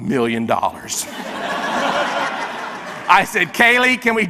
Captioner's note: audience laughs